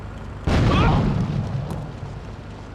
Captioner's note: gunshot